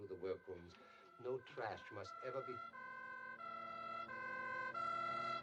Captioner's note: sirens Approach, Wailing